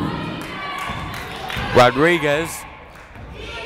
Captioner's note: yelling